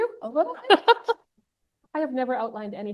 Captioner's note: laughs